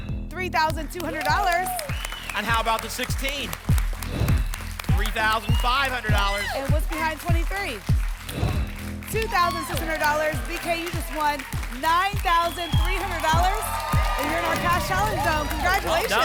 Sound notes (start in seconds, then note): 12.6 applause and cheering